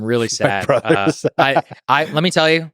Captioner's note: chuckles